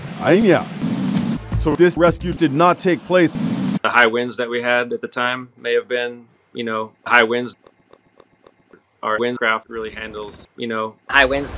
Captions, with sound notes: ...ainia So this rescue did not take place. The high winds that we had at the time... may have been... you know... high winds (teeth chattering) Our wind craft really handles... you know... high winds